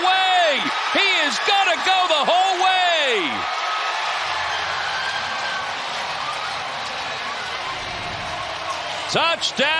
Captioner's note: cheers and applause